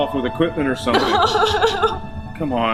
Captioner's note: Sheila sobbing